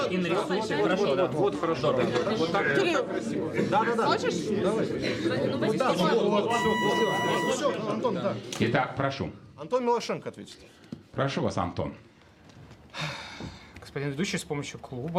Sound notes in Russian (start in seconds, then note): 12.5 вздыхает